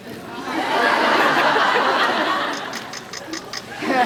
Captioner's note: laughs